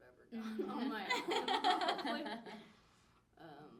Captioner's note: laughing